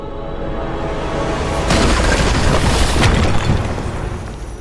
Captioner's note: ethereal music; rocks clattering